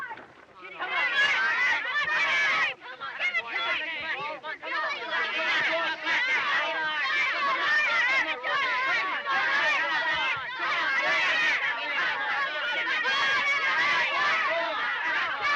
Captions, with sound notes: Come on! Come on! Give it to him! Come on! Come on! Come on! Come on! [ All Shouting ]